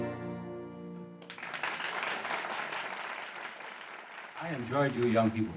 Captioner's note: audience applauding